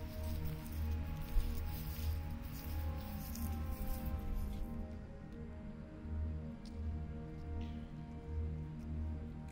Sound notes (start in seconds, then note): 0.0 soft shuffling; 6.8 soft music